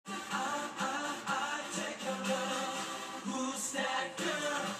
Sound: background TV noise/music

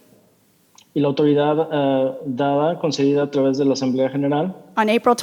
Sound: translator speaking in Spanish

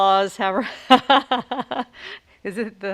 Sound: laughs

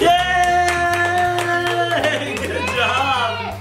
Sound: hands clapping

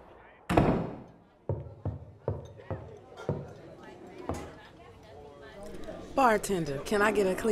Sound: door opens and shuts; footsteps and indistinct chatter

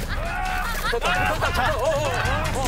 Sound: shouting

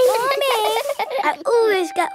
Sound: all giggling

